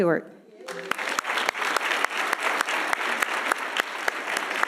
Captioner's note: audience applauding